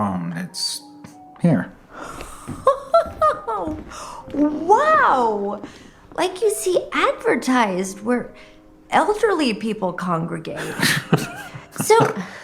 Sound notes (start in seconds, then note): 2.5 laughing